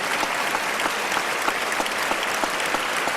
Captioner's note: applause